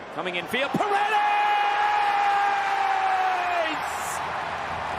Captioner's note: crowd cheers